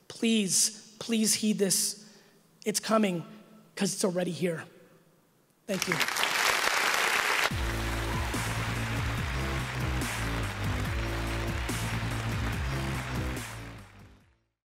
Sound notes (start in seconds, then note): 6.6 audience applauding; 7.4 bright upbeat music